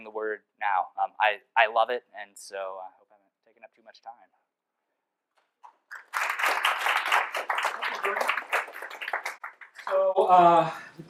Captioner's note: applause